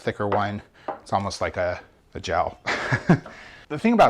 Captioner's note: laughs